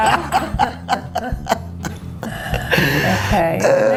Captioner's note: both laughing